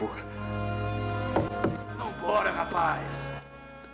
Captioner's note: Knocking